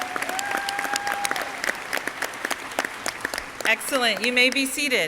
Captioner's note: audience clapping